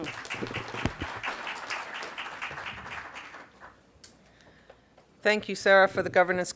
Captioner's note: applause